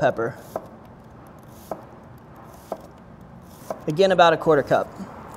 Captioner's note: knife slashes